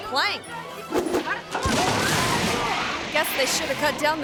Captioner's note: guests yell; bridge crashes